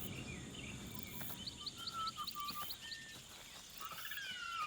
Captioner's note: birds tweeting